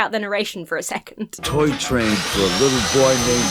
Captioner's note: saw buzzes